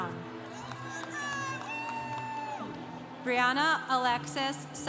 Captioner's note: congregation cheering